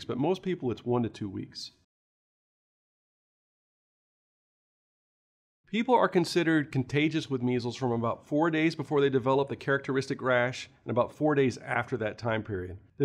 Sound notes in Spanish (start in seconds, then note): 1.9 Sin audio